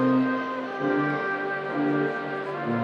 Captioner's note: none